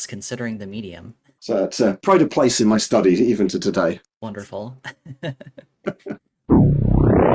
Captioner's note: both laughing